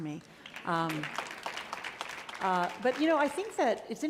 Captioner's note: audience applauding